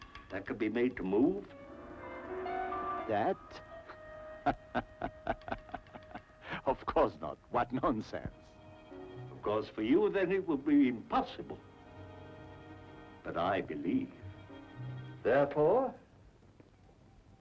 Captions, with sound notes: that could be made to move? - That? (laughs) Of course not, what nonsense! - Of course, for you then it will be impossible. But I believe. Therefore...